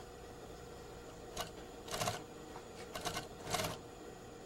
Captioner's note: sewing machine